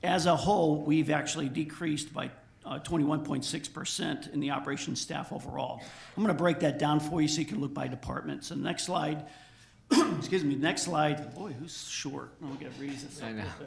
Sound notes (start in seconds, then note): 9.8 coughs